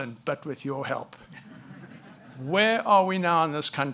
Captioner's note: audience laughs